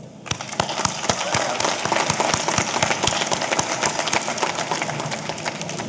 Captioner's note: audience applauding; audience cheering